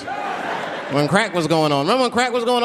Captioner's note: audience laughing